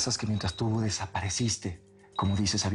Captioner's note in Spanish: none